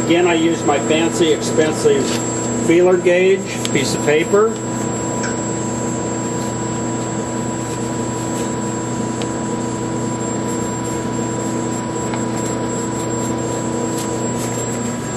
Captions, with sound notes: Again, I use my fancy, expensive feeler gauge, a piece of paper. (paper rustling) (machine whirring)